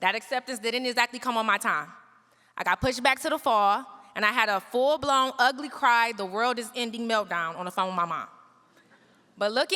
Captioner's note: none